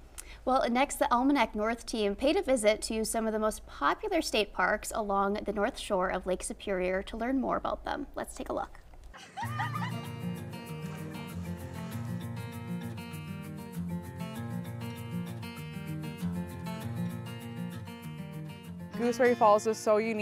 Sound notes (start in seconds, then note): 9.1 people laughing; 9.4 upbeat music